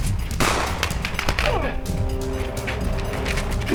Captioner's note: gunshot cracks